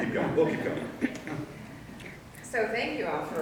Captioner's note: audience laughing